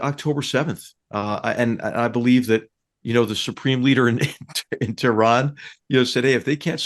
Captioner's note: laugh